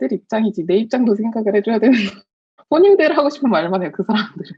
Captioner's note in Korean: 웃음